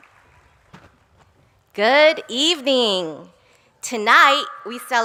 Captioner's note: applause